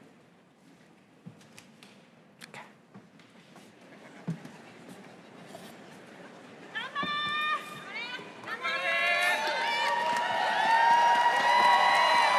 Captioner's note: applause